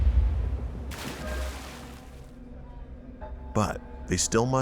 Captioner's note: water splashing